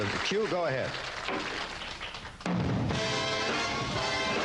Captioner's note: applause